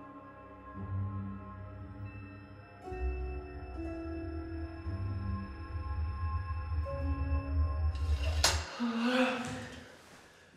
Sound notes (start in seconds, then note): 2.9 high-pitched ringing; 7.9 metal clacks; 8.5 Palle gasps